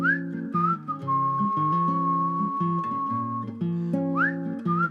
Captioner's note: whistles